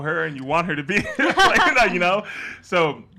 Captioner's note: laughs